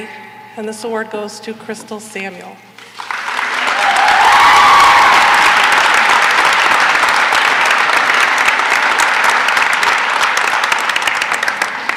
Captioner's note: cheering and applause